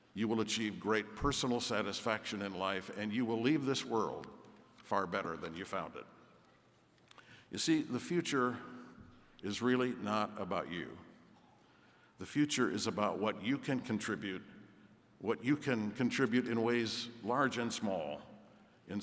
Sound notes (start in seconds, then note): none